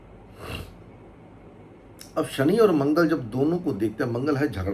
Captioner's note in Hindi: नाक से की जाने वाली आवाज़